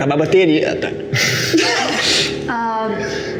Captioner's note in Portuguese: Risadas